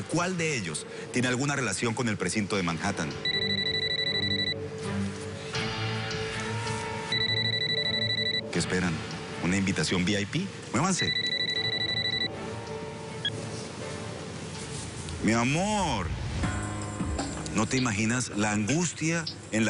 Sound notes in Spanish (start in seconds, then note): 4.6 Suena el celular